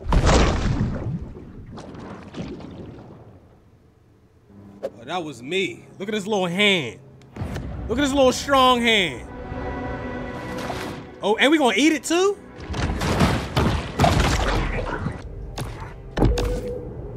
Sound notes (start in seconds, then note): 0.0 splash; 12.6 water slamming